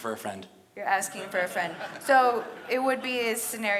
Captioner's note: audience laughs